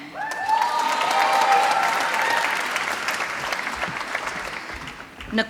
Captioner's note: applause